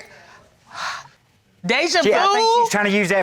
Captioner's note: sighs